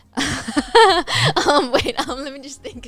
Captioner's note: laughing